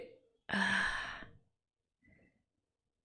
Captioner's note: sighs